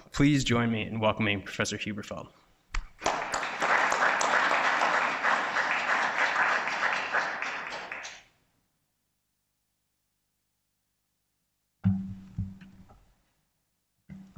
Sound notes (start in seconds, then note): 2.9 audience applauds